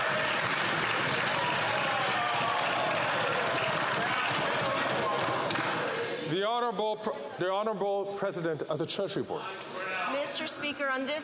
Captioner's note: some Applause